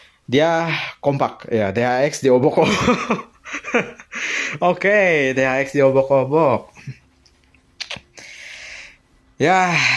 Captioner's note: laughs